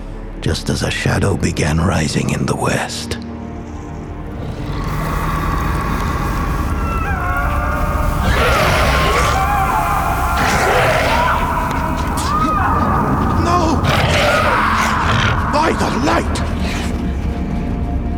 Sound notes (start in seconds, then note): 4.3 flames whooshing; 6.8 screaming